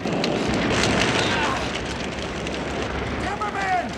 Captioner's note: Timmerman groans